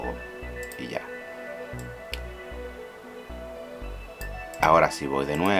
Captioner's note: clicking